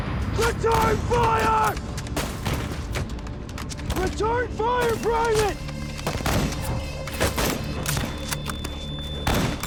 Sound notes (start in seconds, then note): 6.2 gunshots